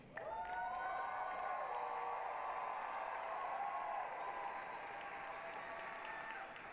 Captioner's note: applause, cheering